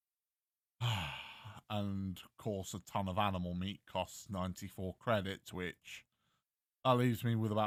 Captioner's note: sigh